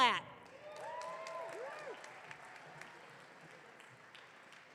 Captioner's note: audience cheering